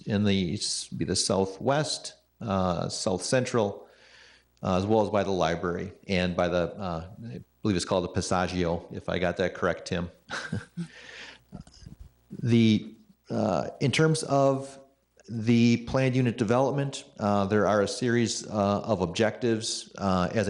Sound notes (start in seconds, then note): 10.2 chuckles